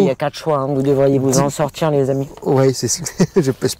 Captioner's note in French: rire